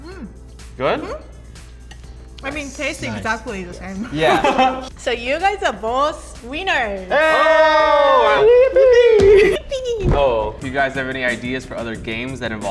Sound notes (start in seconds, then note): 4.0 laughing